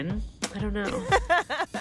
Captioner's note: laughter